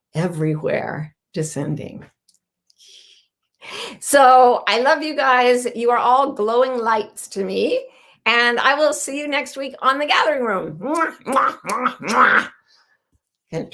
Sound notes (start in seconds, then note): 10.8 blowing kisses